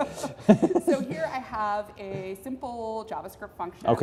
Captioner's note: laugh